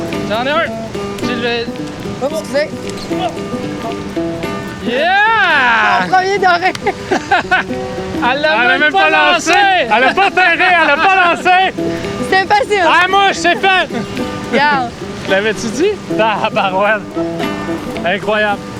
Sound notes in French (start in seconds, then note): 5.7 rires